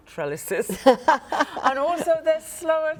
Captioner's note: laughing